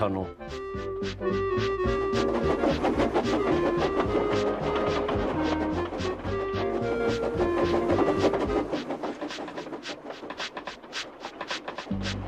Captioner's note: Thomas clatters by, happy tune continues